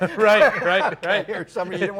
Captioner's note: both laugh